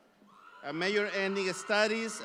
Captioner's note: audience applauds